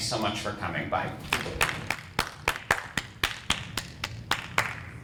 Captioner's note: clapping